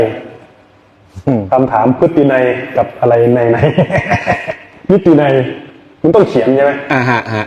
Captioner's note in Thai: เสียงหัวเราะ